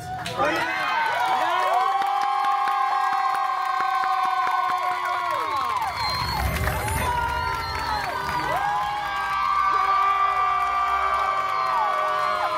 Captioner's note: guests cheering and applauding